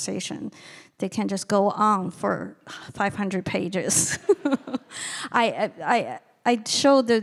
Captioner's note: laughing